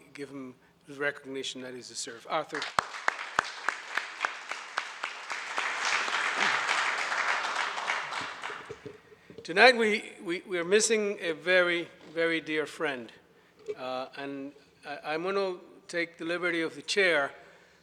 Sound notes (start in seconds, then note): 2.5 audience applauds